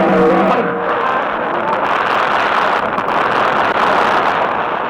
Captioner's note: audience applauds